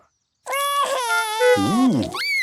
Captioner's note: cries